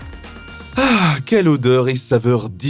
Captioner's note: speaking French